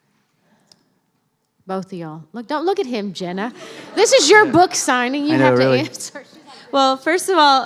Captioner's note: laughter